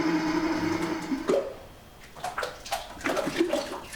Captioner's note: popping, splashing